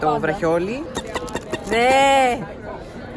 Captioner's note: lightstick noise